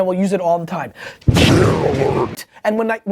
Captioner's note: monster voice